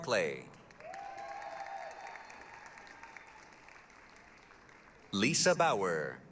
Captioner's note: applause, cheering